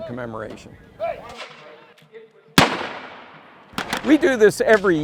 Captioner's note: weapon fire